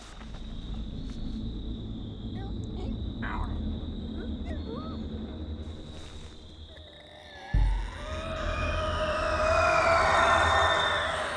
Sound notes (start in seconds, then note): 2.3 quiet chirps; 7.7 slow, high-pitched screech